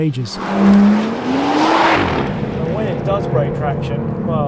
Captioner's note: car zooming